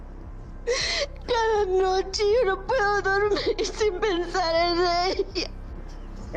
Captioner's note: Susana's mom sobs and speaks native language